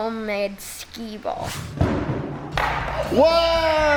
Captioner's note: wooshing; ball rolling; cheering excitedly